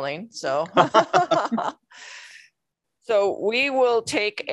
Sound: scattered laughing

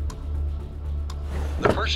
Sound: drawer opening

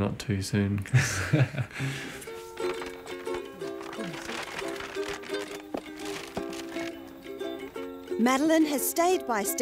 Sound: laughs

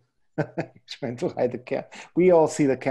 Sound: laughing

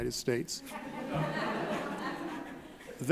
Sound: laughing

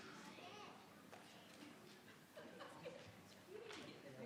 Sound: crowd chattering

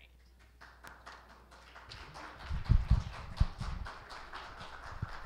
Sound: audience applauds

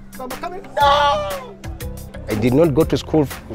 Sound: yells

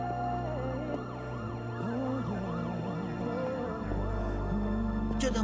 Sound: siren wailing

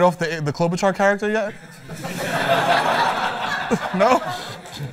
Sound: laughter

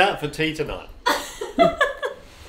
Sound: laughs

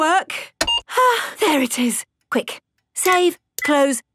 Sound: sighs

